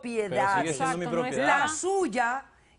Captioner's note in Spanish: Hablan al unísono